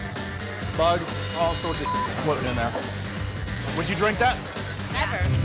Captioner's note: beep